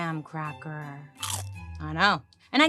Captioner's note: cracker crunches